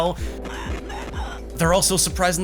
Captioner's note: bitcrushed screaming